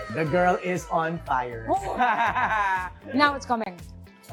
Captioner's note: laughs